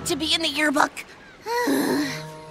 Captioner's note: groans